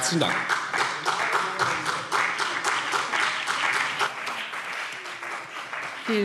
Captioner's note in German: Beifall CDU und BÜNDNIS 90/DIE GRÜNEN